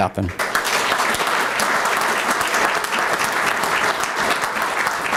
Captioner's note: applause